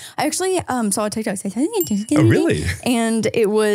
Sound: speaking in gibberish

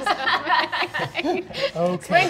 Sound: laughing

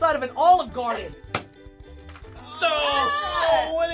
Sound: balloon popping; all groaning

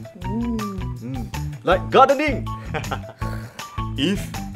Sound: daddy laughs

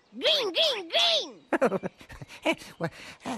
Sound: chuckle

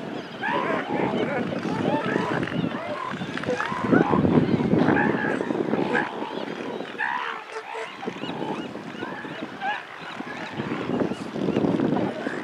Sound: seal vocalizations intensify; seagull calls continue

